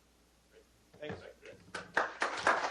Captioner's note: applause